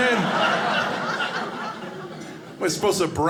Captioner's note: audience laughing